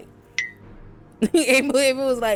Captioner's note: bell dings